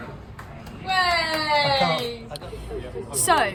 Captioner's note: clapping and cheering